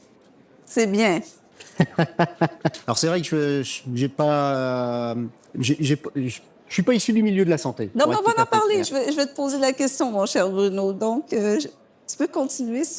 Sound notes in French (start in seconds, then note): 1.6 rires